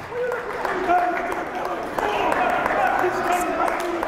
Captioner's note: yelling